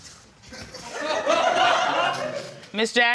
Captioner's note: audience laughing